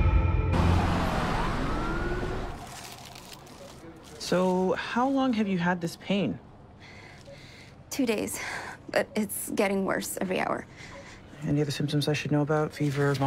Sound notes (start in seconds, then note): 0.2 sirens wailing